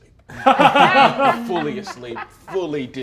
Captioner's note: laughs